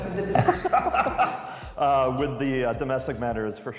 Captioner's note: laughter